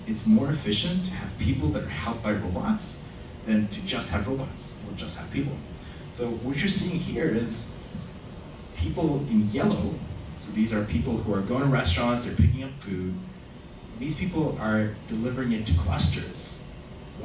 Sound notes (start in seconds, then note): none